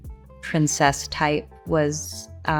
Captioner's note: none